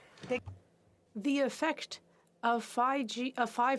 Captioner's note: speaking FRENCH